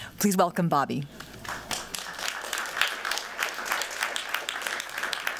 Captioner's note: applause